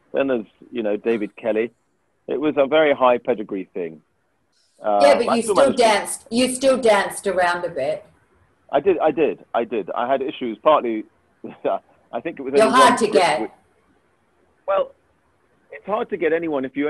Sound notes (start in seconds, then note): 11.6 chuckles